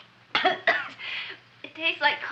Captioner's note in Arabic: سعال أودري